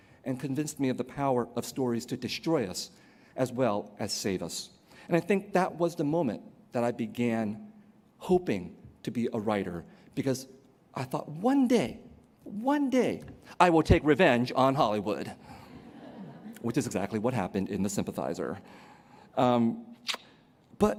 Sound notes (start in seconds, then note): 15.6 laughter